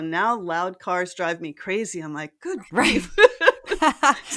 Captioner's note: laugh